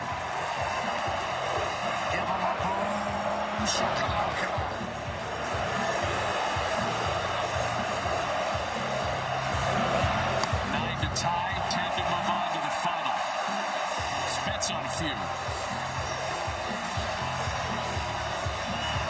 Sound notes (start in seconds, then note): 4.9 booing